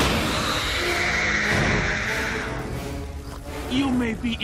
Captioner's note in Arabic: صراخ